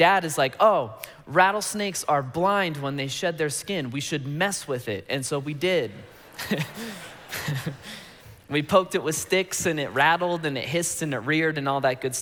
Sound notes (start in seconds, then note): 5.8 congregation laughing